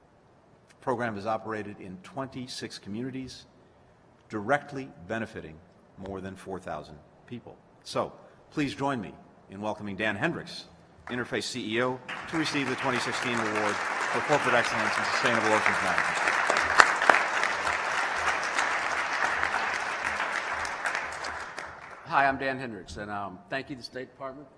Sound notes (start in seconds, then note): 19.0 applause